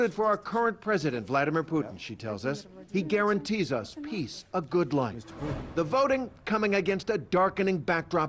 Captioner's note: speaking a foreign language